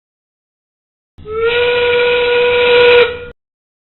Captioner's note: Start of End Game, whistle sounds